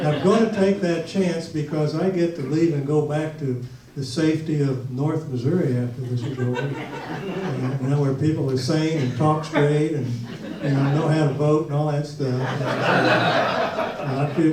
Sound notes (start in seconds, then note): 6.0 audience laughs; 12.2 audience laughs